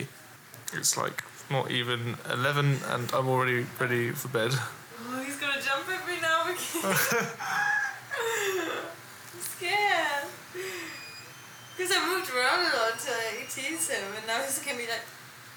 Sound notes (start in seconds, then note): 6.6 laughter; 7.7 squeals